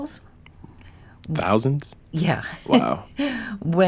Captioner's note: laughs